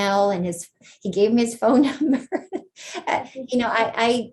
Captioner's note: chuckles